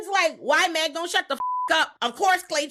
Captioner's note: beep